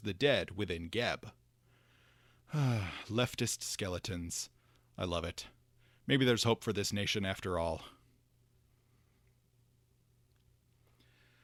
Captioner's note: sigh